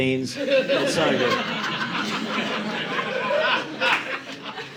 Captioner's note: audience laughing